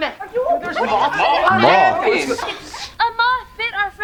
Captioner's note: people chattering